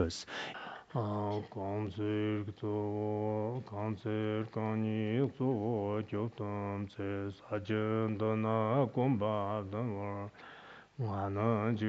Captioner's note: citing scripture in Tibetan